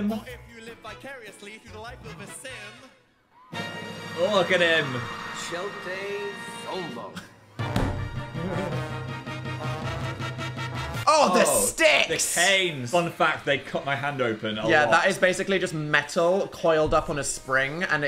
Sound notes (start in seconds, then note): 3.5 triumphant music; 5.4 Dil speaking in foreign language; 7.6 triumphant music